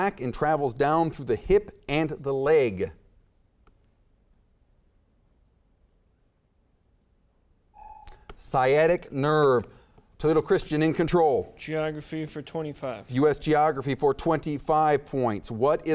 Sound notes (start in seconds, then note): 7.8 timer buzzes